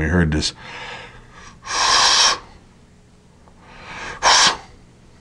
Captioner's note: breathing sounds